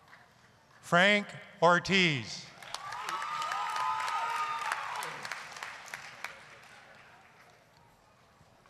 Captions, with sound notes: FRANK ORTIZ... (applause, cheering)